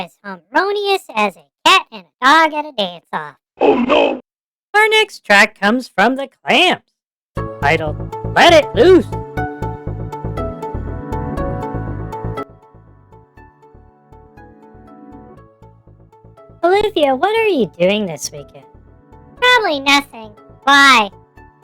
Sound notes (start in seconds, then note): 0.6 chuckles; 8.3 random banter while music plays in background